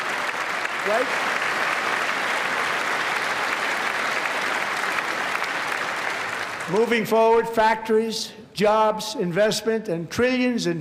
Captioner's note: applause